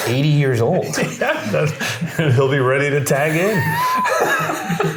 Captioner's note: laughing